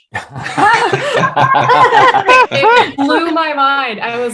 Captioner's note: all laughing